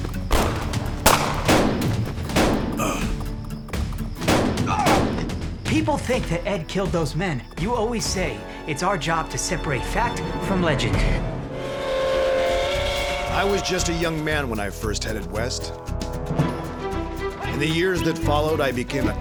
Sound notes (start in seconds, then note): 0.3 gunshots; 2.8 man groans; 4.5 gunshots, man groans; 11.4 train whistle